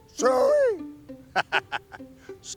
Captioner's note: speaker laughs